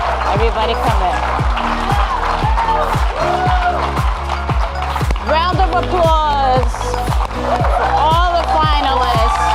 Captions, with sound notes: Everybody come in. (audience clapping and cheering) Round of applause for all the finalists,